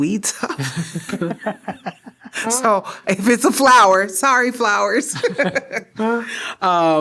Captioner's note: laughter